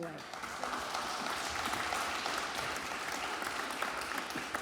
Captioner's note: audience applauds